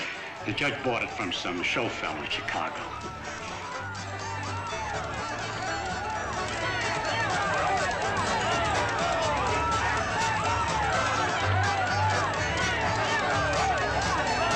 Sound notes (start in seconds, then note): 4.0 festive chatter; 4.0 lively music